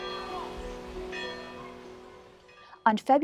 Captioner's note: bell rings